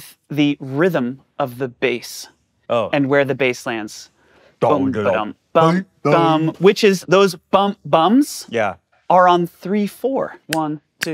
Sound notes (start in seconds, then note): 4.6 imitates bass; 8.5 bass imitations